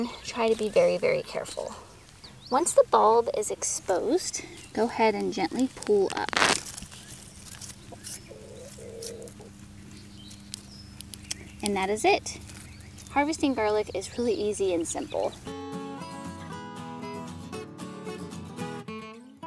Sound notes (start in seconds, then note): 6.3 roots ripping; 14.5 folksy guitar music